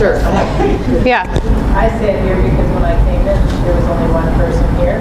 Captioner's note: audience Reponse